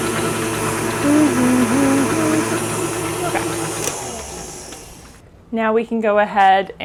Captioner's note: mixer whirring; humming